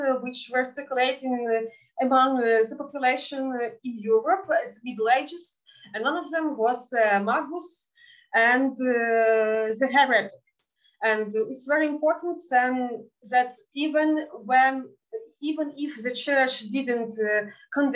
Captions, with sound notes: which were circulating among the population in Europe in middle ages. And none of them was (speaking in Yiddish) and the (speaking in Yiddish) And it's very important that even if the church didn't condemn